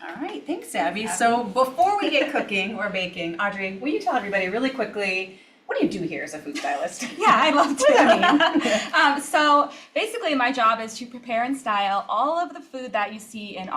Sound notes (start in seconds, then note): 7.0 laughs; 7.0 both laugh